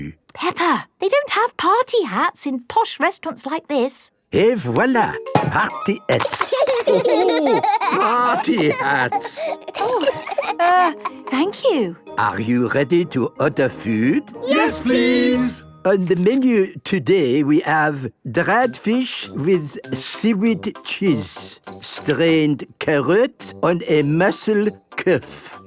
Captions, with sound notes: - Peppa! They don't have party hats in posh restaurants like this! - Et voilà! Party hats! - (laughing) - Oh, ho! Party hats! - Err... thank you. - Are you ready to order food? Yes, please! - On the menu today we have... dried fish with seaweed cheese. Strained carrot on a muscle cough...